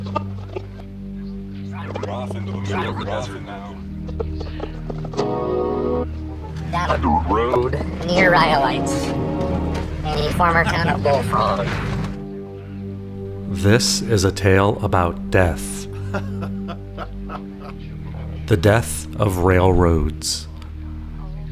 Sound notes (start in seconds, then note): 0.0 music & radio static; 1.4 distorted voice; 4.0 music & radio static; 6.6 distorted voice